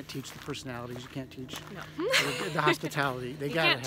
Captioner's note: laughs